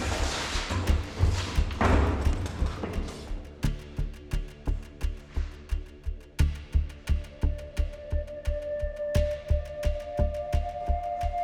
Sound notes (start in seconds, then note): 1.2 door thuds; 3.9 light dramatic music continues